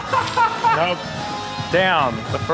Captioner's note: laughing